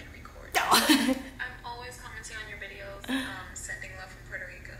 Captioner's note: laughs